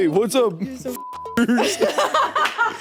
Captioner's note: beeps; Jacksepticeye chuckling; laughing